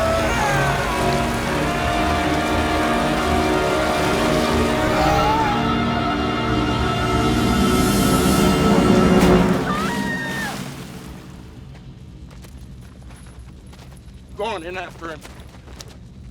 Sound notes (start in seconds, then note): 9.6 screams